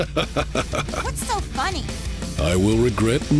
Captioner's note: laughs